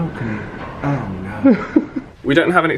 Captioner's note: laughs